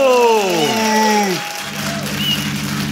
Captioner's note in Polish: oklaski publiczności